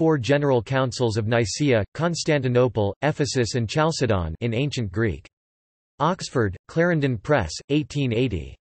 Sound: in Ancient Greek

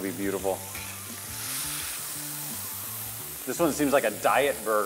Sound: pan sizzles

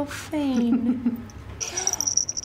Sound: laughs

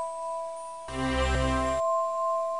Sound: triumphant ding

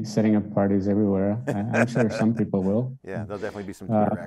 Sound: laughs

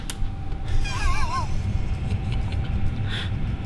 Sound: laughter

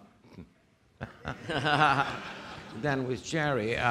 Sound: audience laughing

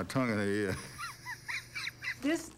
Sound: chuckling

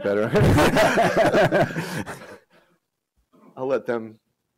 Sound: laughter

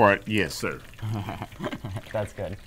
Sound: awkward laughing

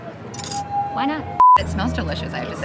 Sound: beep

